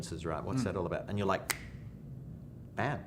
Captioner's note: fingers snap